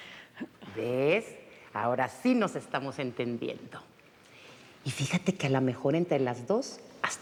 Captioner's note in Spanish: Voz de Venancia